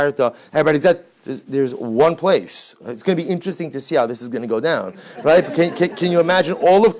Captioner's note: background laughter